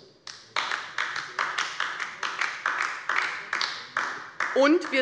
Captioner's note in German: Beifall bei der LINKEN